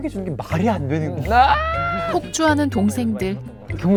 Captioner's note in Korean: 꼰대인가 봐 웅성웅성